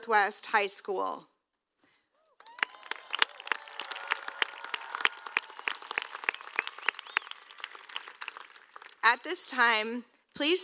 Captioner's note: applause